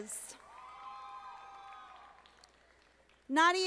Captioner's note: audience applauding